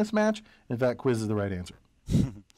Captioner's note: laugh